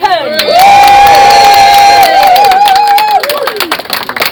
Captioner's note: clapping and cheering